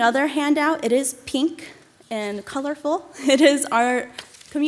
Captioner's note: chuckles